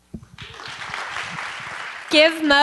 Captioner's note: applause